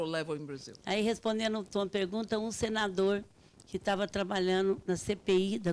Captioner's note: speaking Portuguese